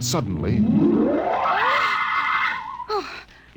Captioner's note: scream